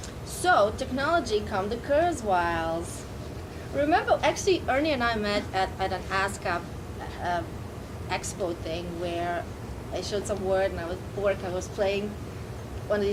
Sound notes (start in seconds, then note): none